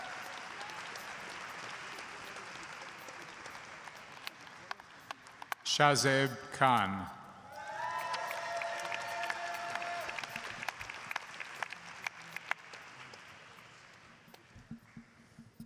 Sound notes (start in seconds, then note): 2.7 applause